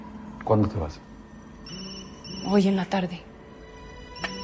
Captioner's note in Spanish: Suena el celular